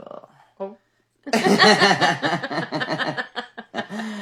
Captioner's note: laughing